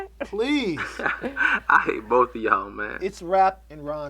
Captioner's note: laughs